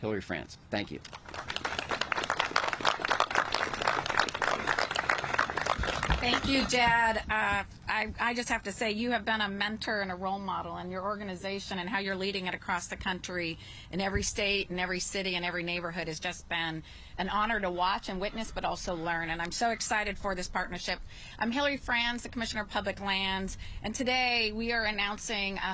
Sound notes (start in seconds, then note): 8.9 applause